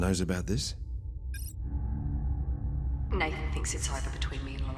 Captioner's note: beeping